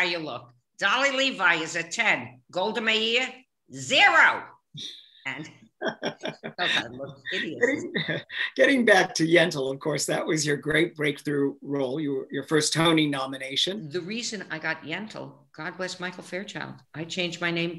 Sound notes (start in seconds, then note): 5.8 laughing